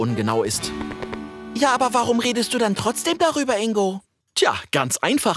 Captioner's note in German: verstellt